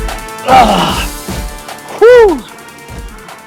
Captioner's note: grunts